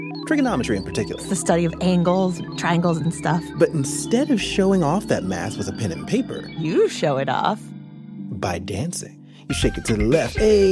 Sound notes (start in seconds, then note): 6.6 the computer sounds fade out